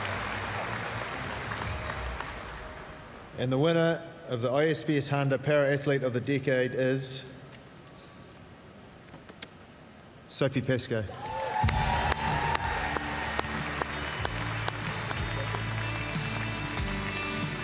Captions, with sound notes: And the winner of the ISPS Handa Para-Athlete of the Decade is... Sophie Pascoe. (CHEERS, APPLAUSE) (PLEASANT MUSIC)